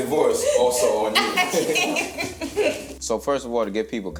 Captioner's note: laughs